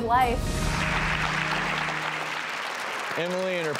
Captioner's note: audience clapping